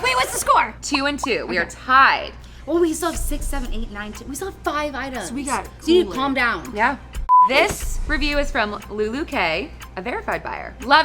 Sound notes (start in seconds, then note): 7.3 beep